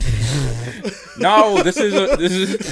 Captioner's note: laughs